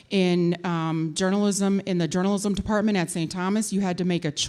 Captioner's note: none